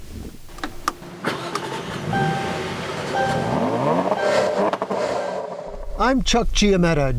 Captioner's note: engine start up